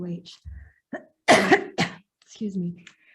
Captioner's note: coughs